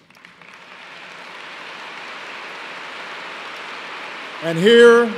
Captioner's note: applause